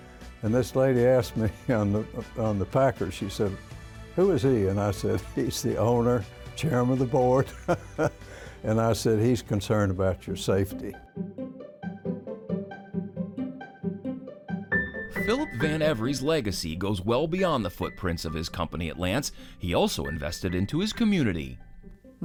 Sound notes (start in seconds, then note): 7.5 laughs; 10.7 bright music